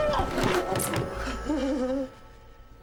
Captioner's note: thud, cries out; laughs